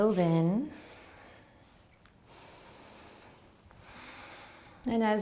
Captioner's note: breathing